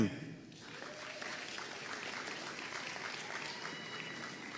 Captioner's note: audience applauding